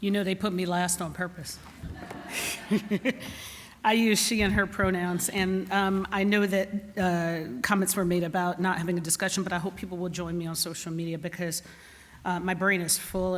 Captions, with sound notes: - They put me last on purpose. [laughter] I use she and her pronouns. And I know that comments were made about not having a discussion. But I hope people will join me on social media because my brain is full.